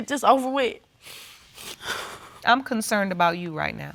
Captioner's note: sniffling